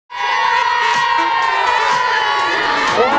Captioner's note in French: cris d’enfants